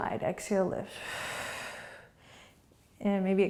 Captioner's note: exhaling